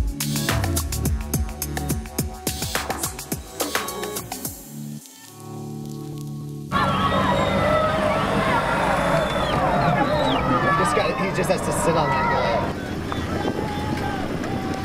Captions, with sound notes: (sounds of cheering) - This guy he just has to sit on that boy.